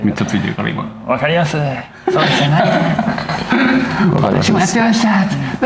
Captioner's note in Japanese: 笑い